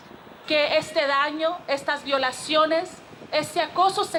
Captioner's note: speaking Spanish